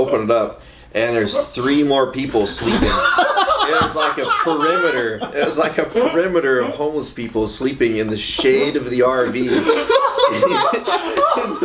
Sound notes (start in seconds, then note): 5.6 laughs loudly; 9.3 laughs loudly